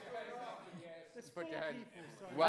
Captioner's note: chatter